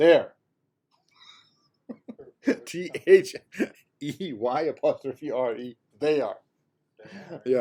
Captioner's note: chuckles